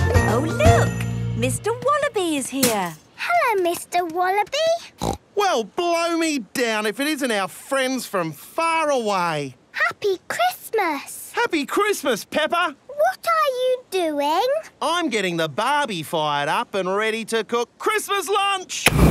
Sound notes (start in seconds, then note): 4.9 snorting